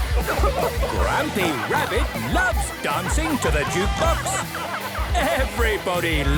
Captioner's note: shouting